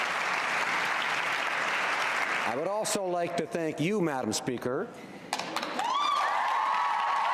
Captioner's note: applause